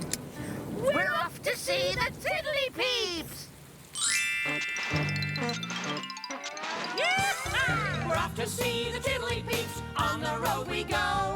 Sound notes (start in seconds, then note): 4.5 hoobmobile starting; 6.9 whooping